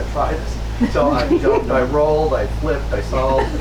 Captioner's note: audience laughs